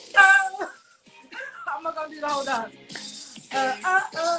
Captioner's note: laughs